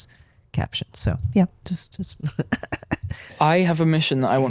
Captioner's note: laugh